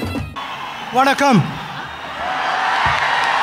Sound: applause

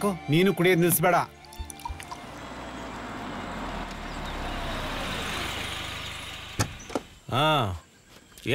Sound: car Sound

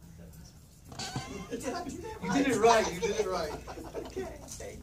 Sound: chatter

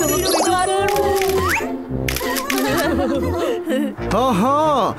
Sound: camera clicks

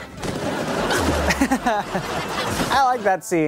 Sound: laughing

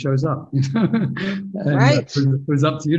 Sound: laughs

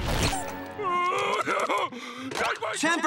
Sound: sobbing loudly

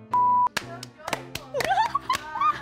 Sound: hands clapping; laughing

